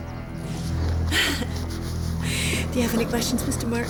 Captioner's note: ominous orchestral music; laughing